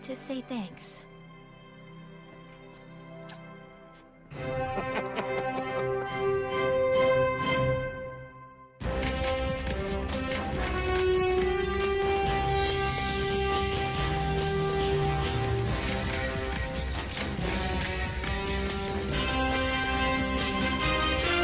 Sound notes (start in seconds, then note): 4.7 laughing